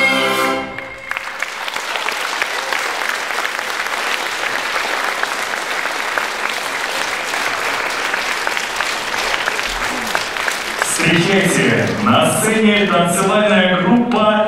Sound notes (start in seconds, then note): 0.7 applause